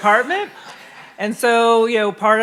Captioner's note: audience laughing